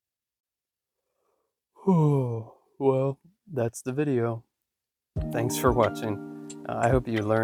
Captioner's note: yawn